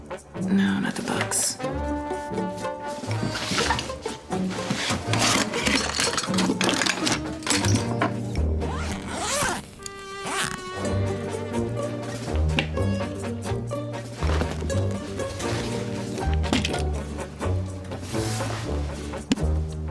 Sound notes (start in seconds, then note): 2.0 quirky music; 8.6 unzipping suitcase; 11.1 quirky music